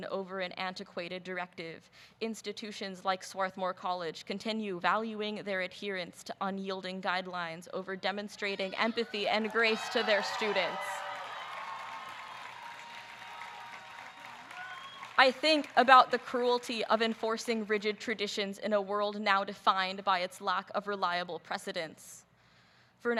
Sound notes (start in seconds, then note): 11.4 audience cheering